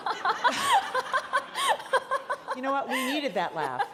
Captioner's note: all laughing